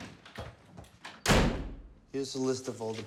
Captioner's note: door slams